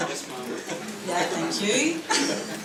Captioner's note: laughter